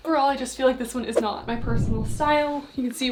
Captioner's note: screen whooshing